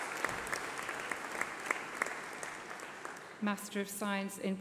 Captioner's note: applause